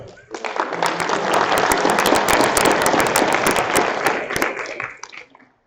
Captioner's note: applause